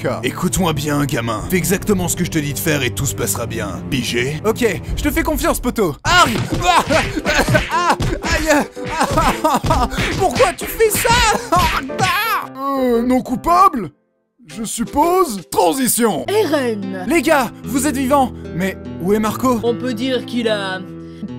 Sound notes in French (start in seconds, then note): 6.1 cris de douleur; 11.1 cri de douleur